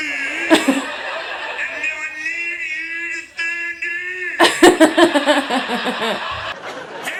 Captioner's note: laughs